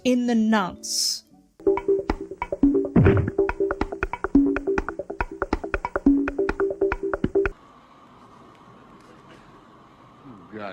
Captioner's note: cartoon sound effect